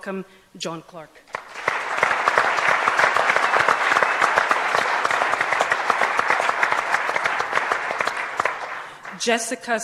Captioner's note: applause